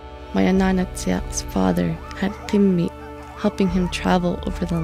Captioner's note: dogs